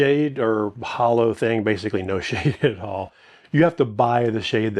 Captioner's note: laughs